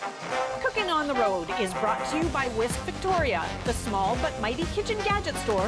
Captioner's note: announcer voice